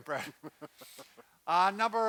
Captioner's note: chuckling